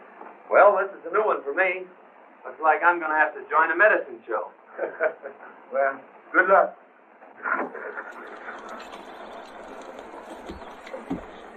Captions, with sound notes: Well, this is a new one for me. Looks like I'm gonna have to join a Medicine Show. [colonel laughs] Well, good luck. [cart rattling]